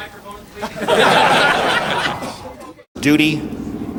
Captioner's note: choir members laughing